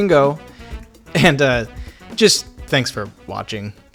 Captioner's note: laughs